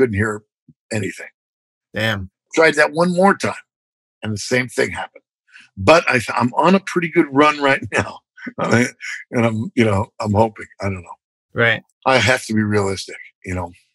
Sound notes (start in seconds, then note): 8.5 laughter